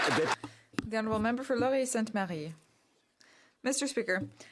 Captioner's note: some Applause